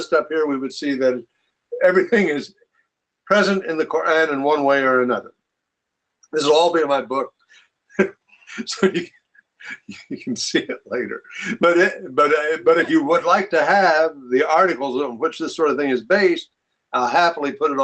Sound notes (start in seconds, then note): 9.6 chuckles